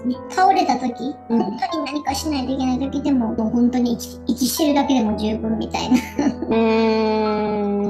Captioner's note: laughs